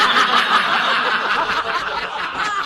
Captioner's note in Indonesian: tertawa